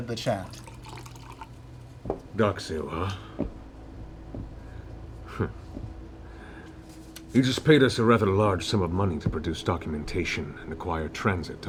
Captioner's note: huffs